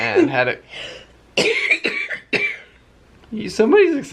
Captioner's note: coughing